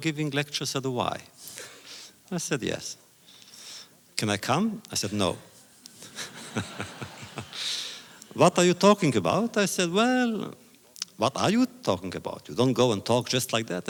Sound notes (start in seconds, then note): 5.9 laughter